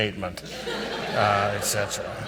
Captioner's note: audience laughs